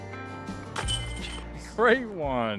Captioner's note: clang